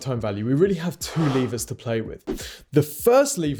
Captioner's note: swoosh